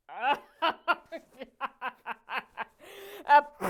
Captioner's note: laughing